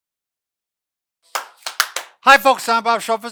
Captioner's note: clapping